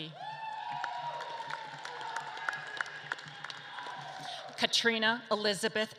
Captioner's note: audience claps and cheers